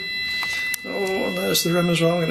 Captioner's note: machine beeping